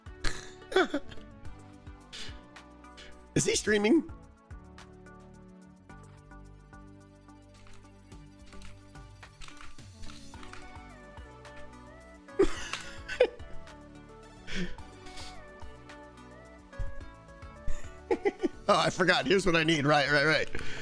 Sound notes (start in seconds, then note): 0.7 giggles; 12.3 chuckles, seemingly proud of himself; 18.0 more pleased laughter